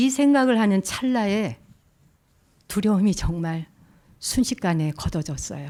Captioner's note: speaking in Korean